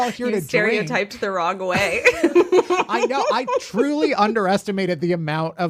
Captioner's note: laughs